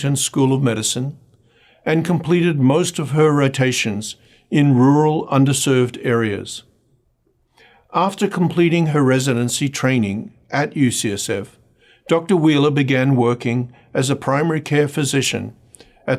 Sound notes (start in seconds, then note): none